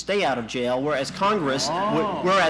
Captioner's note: laughter in courtroom